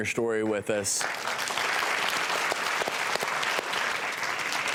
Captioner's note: applause